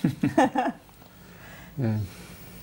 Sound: laughs

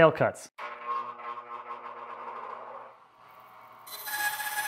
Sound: machinery whirring

